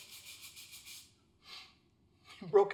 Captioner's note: sound of brush cleaning the floor